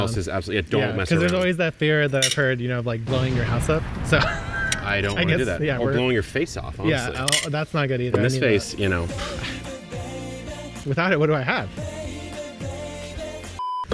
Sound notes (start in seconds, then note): 3.0 bomb explodes; 4.0 chuckles